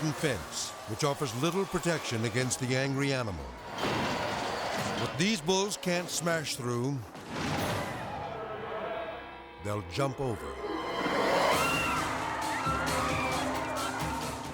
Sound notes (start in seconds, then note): 3.4 tense music; 7.1 fence thuds; 10.5 tense music; 12.1 people clamoring